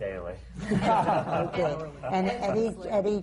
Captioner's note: laughter